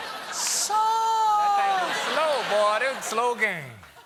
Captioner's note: laughter